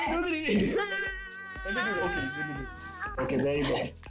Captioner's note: screams in excitement